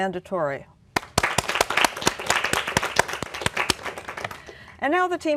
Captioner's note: applause